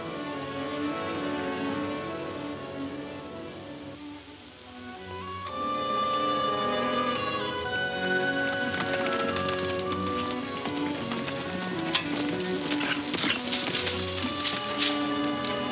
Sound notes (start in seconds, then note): 8.5 hooves slowing